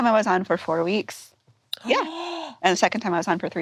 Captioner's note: gasps